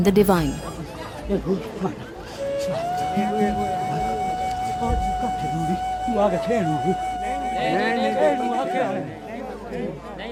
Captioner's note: crowd murmuring; gentle flute music